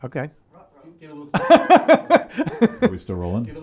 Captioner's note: laughing